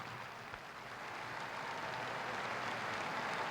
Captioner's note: applause